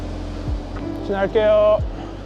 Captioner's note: speaking Korean: Passing